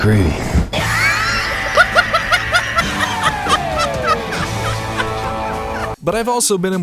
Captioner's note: wheezing laughter